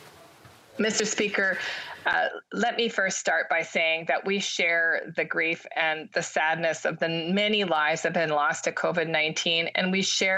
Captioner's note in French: voix de l'interprète